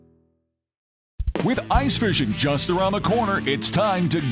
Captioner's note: voiceover